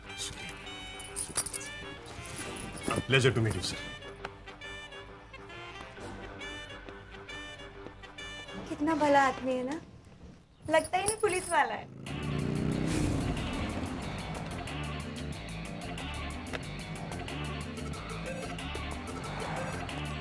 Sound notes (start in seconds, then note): 12.4 bike sound; 17.9 Sakshi exhales